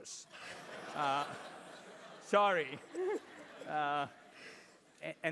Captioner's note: laugh